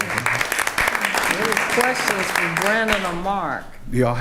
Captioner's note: attendees applauding